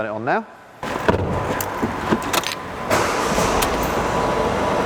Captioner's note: car engine whirrs